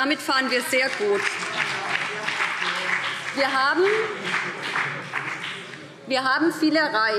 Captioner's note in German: Beifall BÜNDNIS 90/DIE GRÜNEN - Zuruf Freie Demokraten